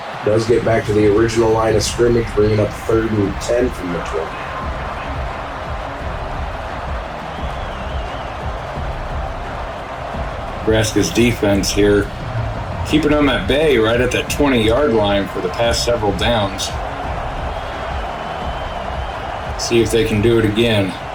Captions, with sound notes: does get back to the original line of scrimmage, bringing up third and 10 from the 20. (crowd cheering) - Nebraska's defense here, keeping them at bay right at that 20 yard line for the past several downs. See if they can do it again.